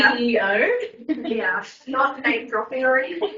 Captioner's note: laughs